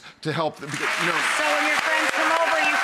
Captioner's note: audience applauds